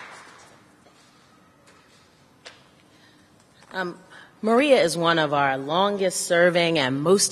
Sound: applause

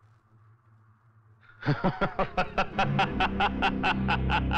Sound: laughing

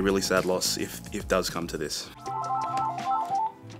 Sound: phone rings

